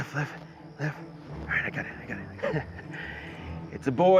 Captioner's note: chuckles